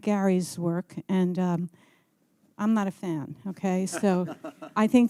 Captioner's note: chuckling